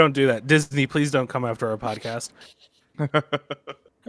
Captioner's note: laughs